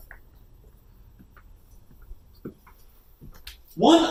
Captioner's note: footsteps